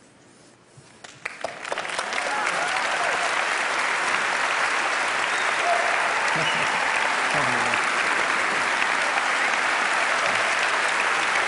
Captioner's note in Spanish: Aplausos